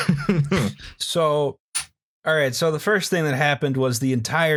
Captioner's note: laughter